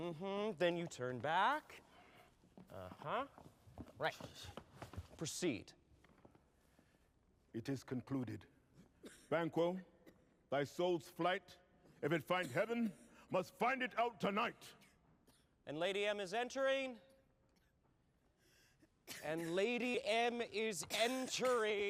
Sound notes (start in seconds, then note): 18.8 coughing; 20.7 coughing continues